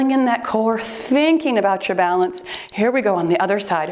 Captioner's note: timer beeps